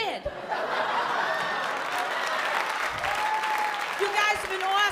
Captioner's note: laughter